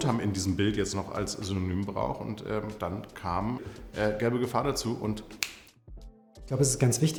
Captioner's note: snaps